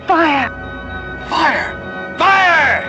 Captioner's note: whispering